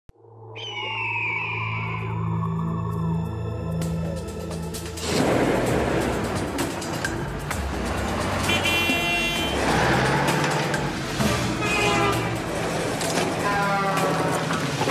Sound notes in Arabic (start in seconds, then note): 0.6 صراخ النسر; 2.7 موسيقى درامية; 8.4 صوت بوق السيارة; 11.1 صوت بوق الشاحنة